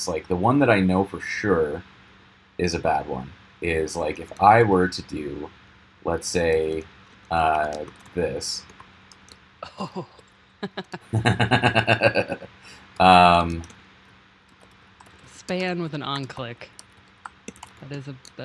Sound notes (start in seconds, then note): 10.6 chuckling; 10.6 snickering